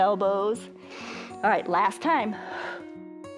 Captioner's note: inhales